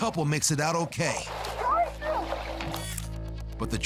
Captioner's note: indistinct shouting